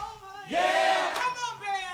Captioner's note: crowd